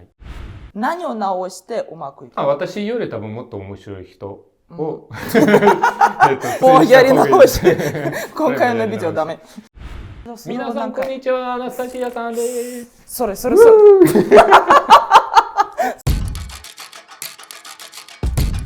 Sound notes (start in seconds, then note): 5.2 laughing; 12.6 laughing